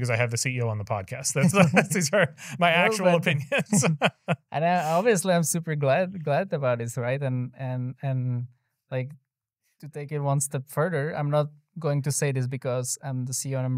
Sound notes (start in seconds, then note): 4.1 laughs